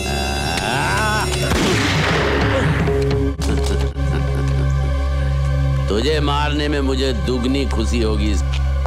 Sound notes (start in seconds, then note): 1.5 Gunshot